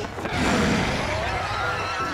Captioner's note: rabbits snarling